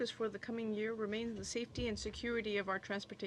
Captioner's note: speaking in french